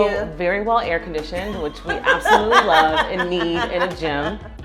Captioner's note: laughs